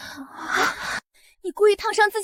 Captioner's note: gasp!